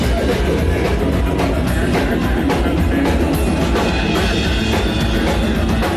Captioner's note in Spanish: voces